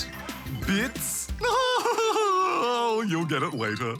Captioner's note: laughs